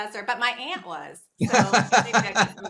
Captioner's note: laughs